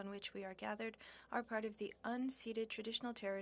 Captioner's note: speaking French